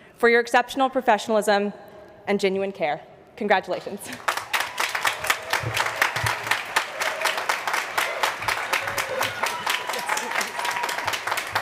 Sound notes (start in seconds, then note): 4.0 applause